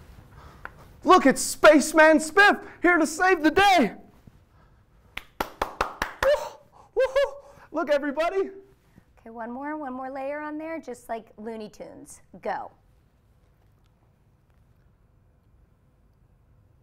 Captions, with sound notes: Look, it's Spaceman Spiff, here to save the day! (clapping) (hooting) Look everybody! - Okay, one more. One more layer on there. Just like Looney Tunes. Go.